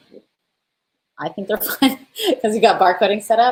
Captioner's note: laughs